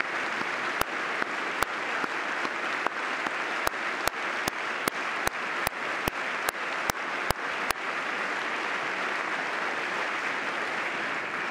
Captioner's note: applause